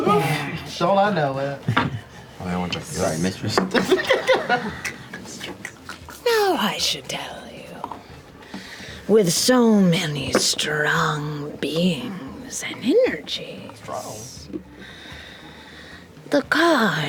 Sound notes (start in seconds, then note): 3.7 laughter